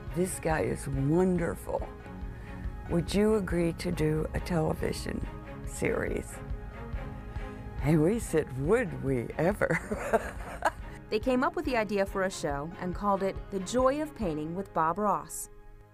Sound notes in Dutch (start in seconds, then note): 9.7 lacht